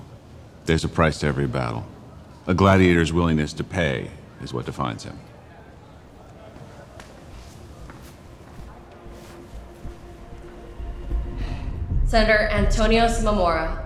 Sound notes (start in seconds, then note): 5.8 senators chattering indistinctly